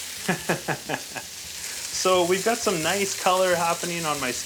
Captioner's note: laughs